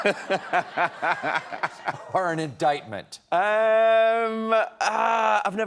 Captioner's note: laughter